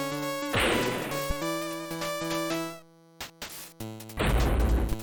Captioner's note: bam